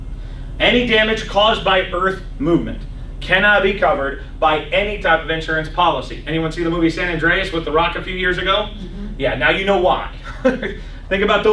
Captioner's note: laughs; clears throat